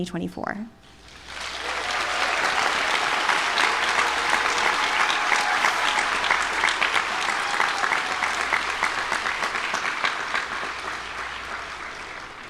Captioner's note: applause